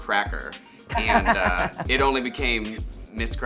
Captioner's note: Baga chuckles